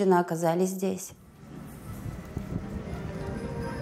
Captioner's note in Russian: люди переговариваются